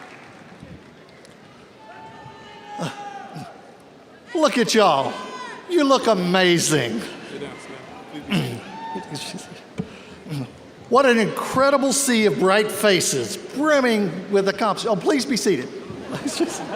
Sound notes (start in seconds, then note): 2.2 audience cheers; 15.8 audience laughs